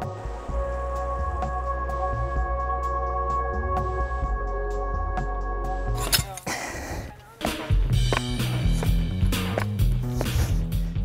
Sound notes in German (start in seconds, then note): 6.1 stöhnt; 7.2 schnelle Musik